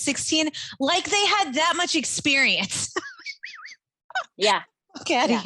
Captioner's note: laughing